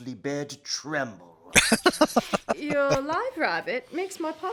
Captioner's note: laughing